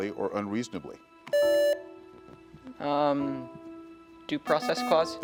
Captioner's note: buzzer beeps